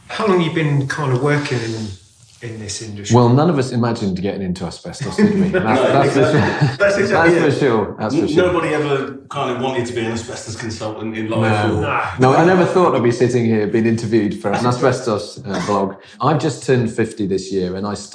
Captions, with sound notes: - How long you been kinda working in this industry? - Well, none of us imagined getting into asbestos industry, now that's for sure. (laughing drowns out speaking) Now, I never thought I'd be sitting here being interviewed for an asbestos blog. I've just turned 50 this year,